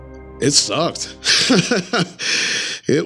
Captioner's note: laughs